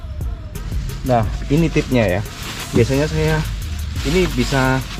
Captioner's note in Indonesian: kresek kresek suara tas kresek